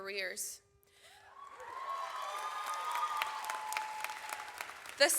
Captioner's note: audience cheers